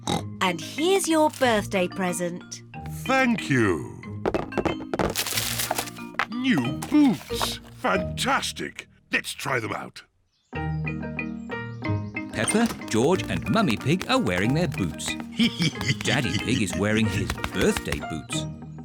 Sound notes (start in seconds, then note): 0.0 oinks; 4.2 present rattles; 15.3 laughs